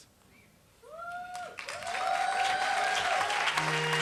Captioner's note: applause